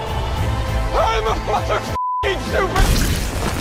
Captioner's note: beeping